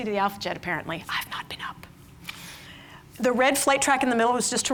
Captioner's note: whispers